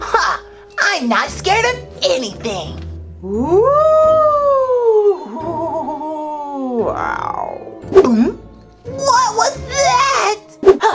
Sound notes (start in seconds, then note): 3.2 spooky sounds; 7.9 gulps